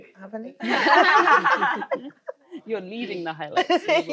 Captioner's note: all laughing